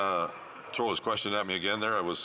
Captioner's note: none